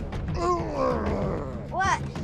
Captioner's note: grunts